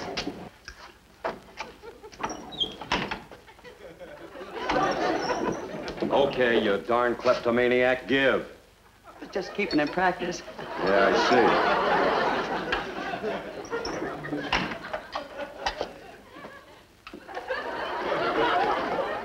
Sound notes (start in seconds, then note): 2.1 door creaks; 3.4 audience laughs; 10.2 audience laughs; 13.6 door creaks; 17.1 audience laughs